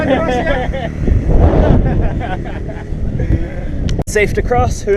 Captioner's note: maniacal laughter